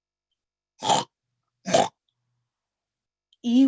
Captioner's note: snort